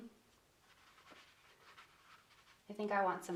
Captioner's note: paintbrush scratching